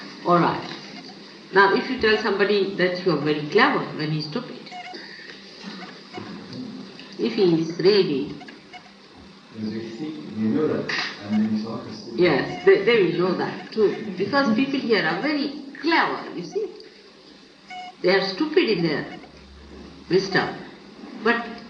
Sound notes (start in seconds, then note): 5.9 laughter